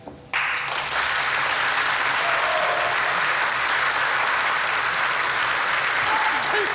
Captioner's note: crowd applauds